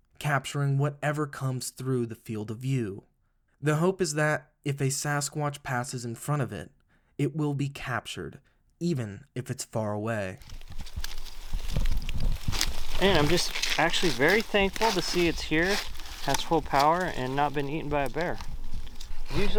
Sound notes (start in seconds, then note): 11.2 leaves rustling